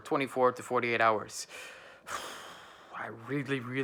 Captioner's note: sighing